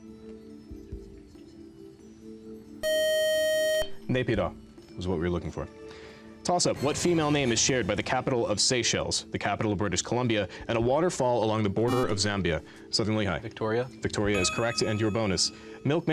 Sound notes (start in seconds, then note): 2.8 beep